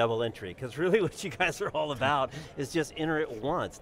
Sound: laughs

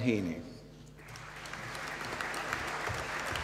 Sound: applause

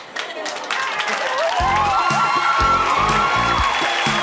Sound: cheering and applause

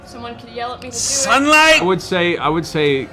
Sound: shouts

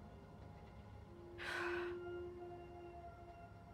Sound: deep sigh

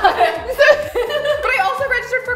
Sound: all three women laugh

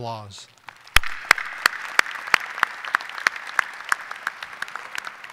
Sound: audience applauding

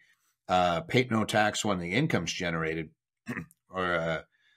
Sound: clears throat

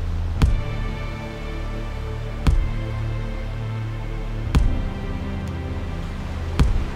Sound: slow, serious music; water lapping

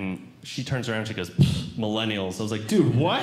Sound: scoffs

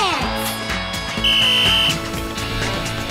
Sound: blows whistle

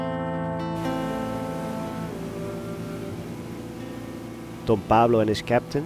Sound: motorboat revving

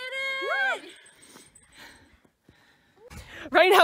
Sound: cheering

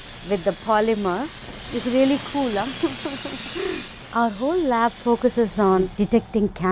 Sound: laughter

